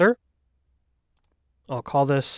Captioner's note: mouse clicks